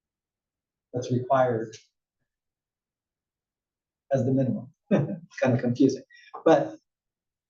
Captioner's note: laugh